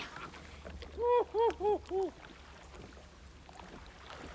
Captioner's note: laughs